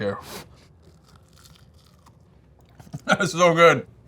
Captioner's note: food crunching